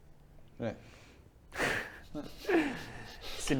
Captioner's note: amused noises